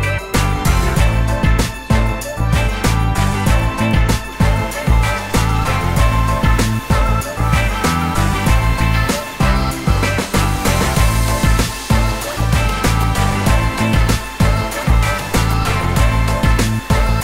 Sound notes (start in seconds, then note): 0.2 upbeat Music; 10.2 hair Dryer